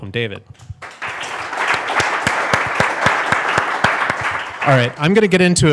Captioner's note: audience applauds